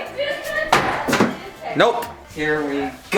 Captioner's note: clattering